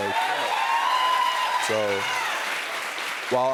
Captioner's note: cheers and applause